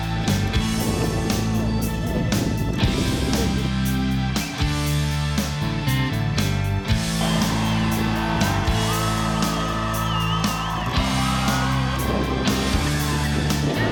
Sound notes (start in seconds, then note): 7.0 crowd cheering